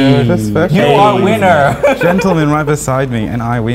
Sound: laughs

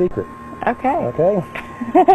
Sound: laughing

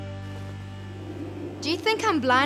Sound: wind blowing

